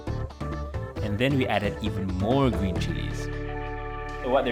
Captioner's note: voiceover